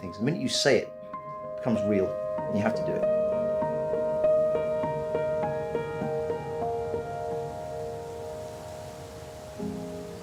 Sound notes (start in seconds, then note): 3.1 gentle piano music; 3.1 waves crashing